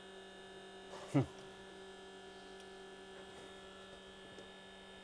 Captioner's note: machine hums